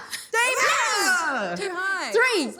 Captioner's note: all yell